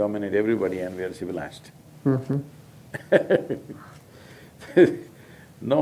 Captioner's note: laughs